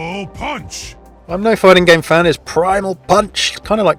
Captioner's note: voiceover